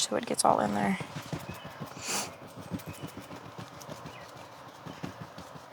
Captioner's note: sniffles